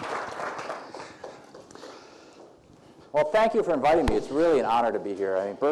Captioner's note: clapping